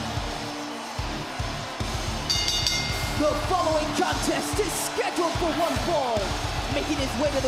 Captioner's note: bell